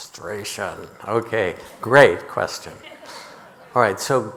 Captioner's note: audience laughing